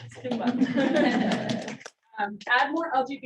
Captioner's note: audience clapping